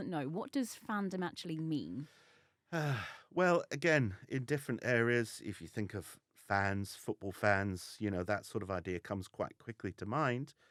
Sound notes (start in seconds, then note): 2.7 sigh